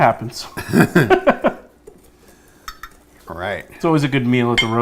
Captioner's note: laughing